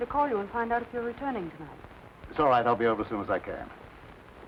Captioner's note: none